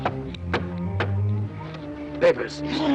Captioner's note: knocking